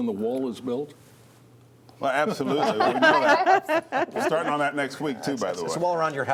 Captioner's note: laughter